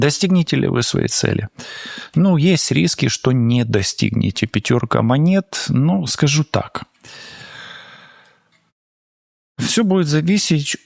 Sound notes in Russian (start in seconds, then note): 7.0 вздыхает; 7.0 тяжело вздыхает